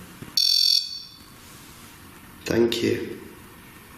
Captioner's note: REM-POD beeping